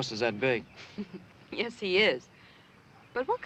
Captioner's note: laughs